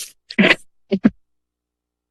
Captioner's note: laughs